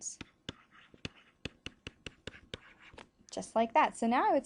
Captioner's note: pen scratching screen